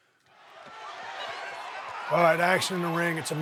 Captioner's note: audience cheering